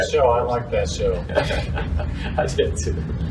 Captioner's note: chuckles